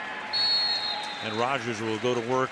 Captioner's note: whistle blows